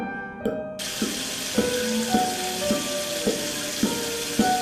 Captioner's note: sound of faucet running